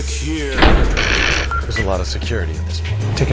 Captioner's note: voiceover; vault slams closed; panel beeps